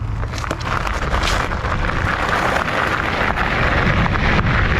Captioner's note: gravels rumbling